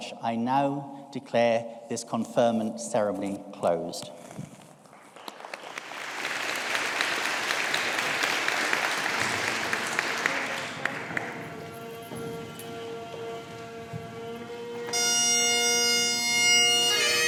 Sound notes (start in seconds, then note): 5.0 audience applauding; 10.0 symbolic bagpipes music